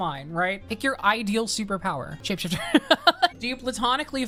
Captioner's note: laughs